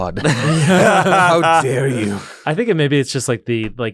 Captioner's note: laughter